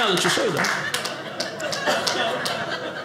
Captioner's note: audience laughing